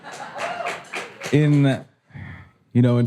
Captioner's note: audience applause